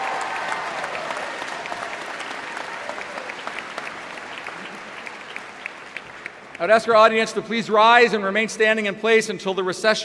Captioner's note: applause